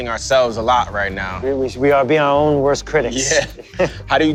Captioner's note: laughs